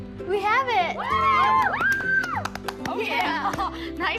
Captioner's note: all cheer